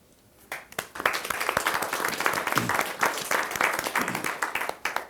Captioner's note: audience applauding